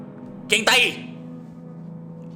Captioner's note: normal voice